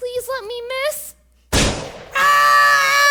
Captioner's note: bang